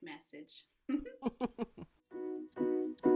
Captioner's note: both laugh